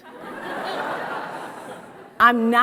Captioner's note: audience laughs